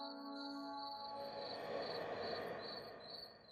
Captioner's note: deep breath